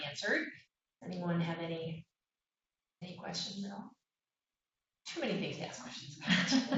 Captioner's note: laughter